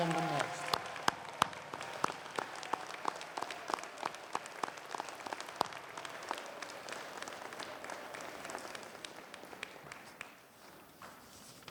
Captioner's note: applause